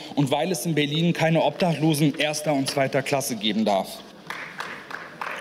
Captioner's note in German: Beifall